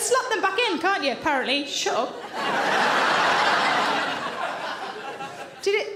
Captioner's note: audience laughing